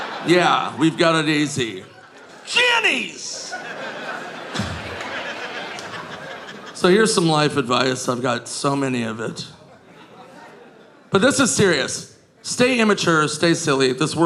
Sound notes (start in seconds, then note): 3.9 audience laughing